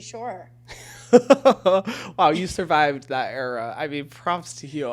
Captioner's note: chuckles